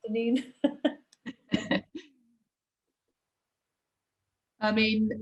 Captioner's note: laughter